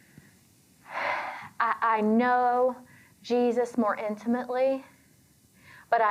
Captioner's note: sighs